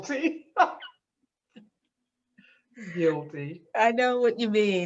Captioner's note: laughs